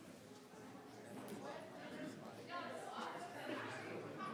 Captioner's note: people chattering